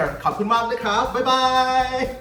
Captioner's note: speaking foreign language